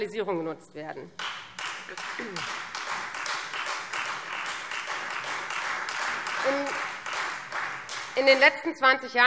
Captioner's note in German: Beifall Freie Demokraten